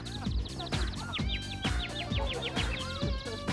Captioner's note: <i> birds chirping</i>